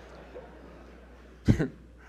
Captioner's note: audience laughs